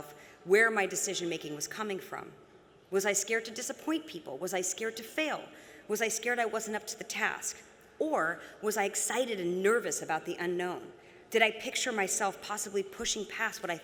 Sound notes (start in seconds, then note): none